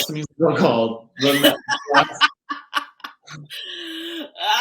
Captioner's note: laughing